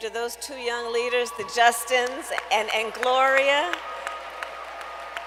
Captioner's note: applause